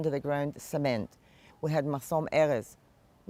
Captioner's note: hebrew